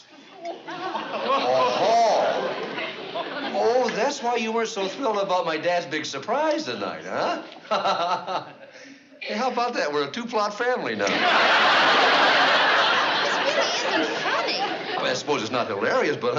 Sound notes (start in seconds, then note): 7.6 chuckling